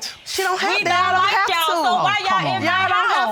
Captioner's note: all chattering indistinctly